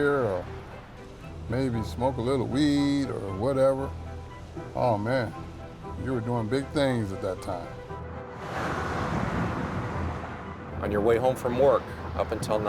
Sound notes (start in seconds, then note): 8.2 traffic noise